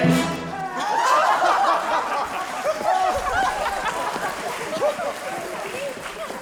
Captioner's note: cheering and applause; group laughing